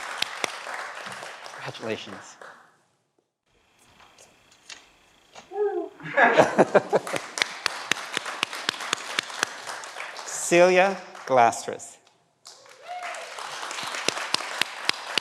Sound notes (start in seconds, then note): 5.5 laughs; 6.4 everyone applauds